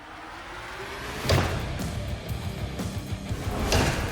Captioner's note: chopping